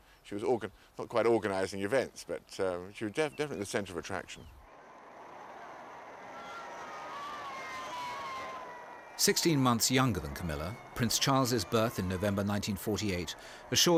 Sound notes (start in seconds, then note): 5.0 crowd cheering